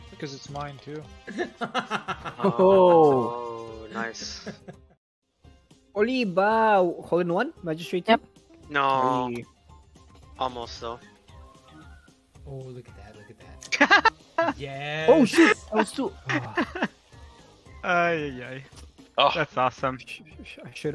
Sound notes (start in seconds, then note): 1.3 manic laughter